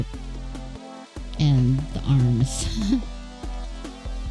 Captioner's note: laughs